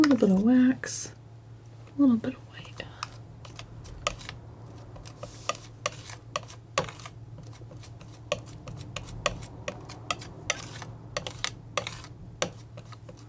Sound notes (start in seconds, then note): 2.7 tapping